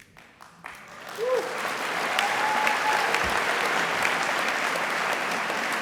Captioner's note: applause, cheering